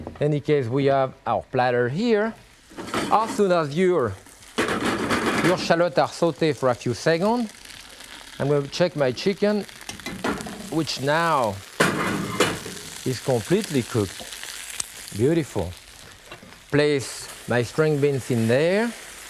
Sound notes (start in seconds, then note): 4.8 pan rattling; 9.8 chicken sizzling